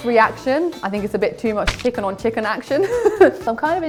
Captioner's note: laughs